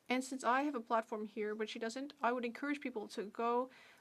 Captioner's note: speaking French